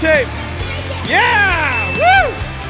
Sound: ding

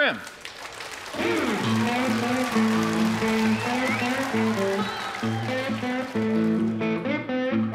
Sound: audience applauding; audience cheering

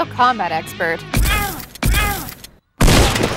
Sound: gun shots firing; metals clanking

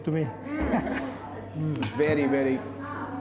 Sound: all chuckling

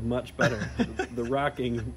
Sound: laughs

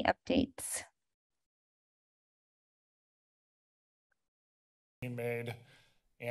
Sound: silence

